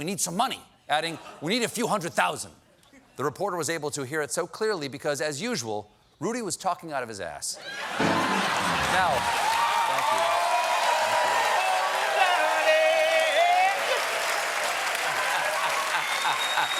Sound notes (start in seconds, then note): 7.6 laughter; 7.9 cheers and applause